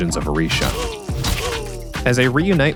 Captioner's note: grunts of pain